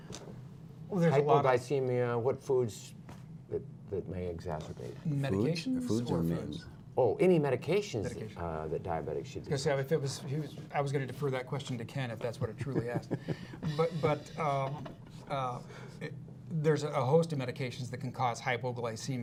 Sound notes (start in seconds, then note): 12.4 laughter